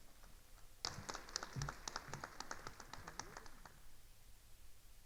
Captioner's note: attendees applauding